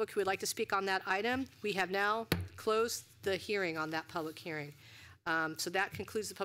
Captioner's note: gavel